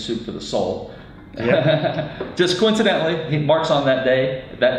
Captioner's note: laughs